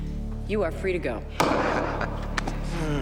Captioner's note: gavel bangs